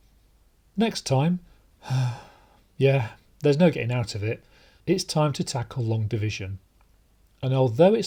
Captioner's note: sigh